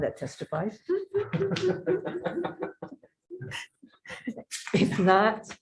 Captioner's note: participants laughs loudly